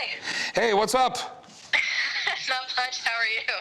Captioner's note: laughing